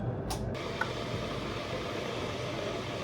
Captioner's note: there’s the sound of the water boiling